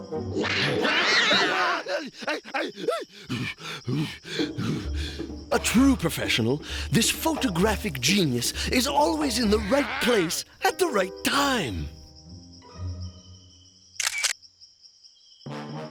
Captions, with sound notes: (cat screeching) (whimpering) (hyperventilating) A TRUE PROFESSIONAL, THIS PHOTOGRAPHIC GENIUS IS ALWAYS IN THE RIGHT PLACE AT THE RIGHT TIME.